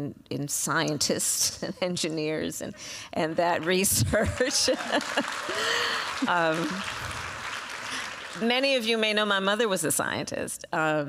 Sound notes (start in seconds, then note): 3.3 applause; 3.9 laughs